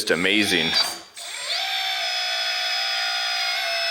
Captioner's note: motor whirs